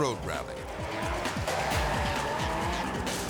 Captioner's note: car revving; tires screeching